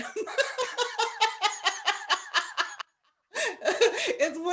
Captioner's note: laughter